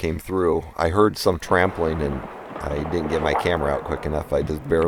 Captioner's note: rustling Rocks